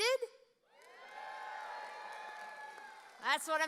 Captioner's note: audience cheering